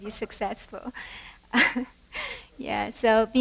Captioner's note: laughter